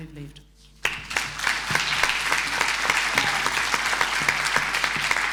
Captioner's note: audience applauding